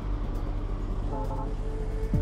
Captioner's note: truck horn